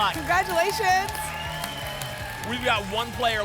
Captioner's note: applause and cheering